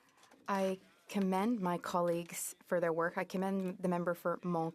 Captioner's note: speaking French